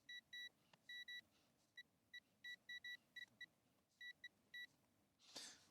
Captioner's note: beeping